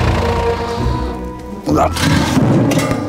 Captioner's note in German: Er ächzt